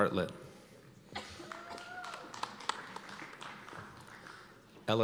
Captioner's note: cheers and applause